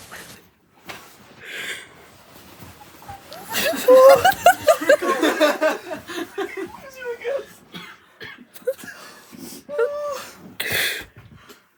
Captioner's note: devastated tragic sobbing